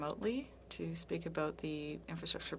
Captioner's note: speaking French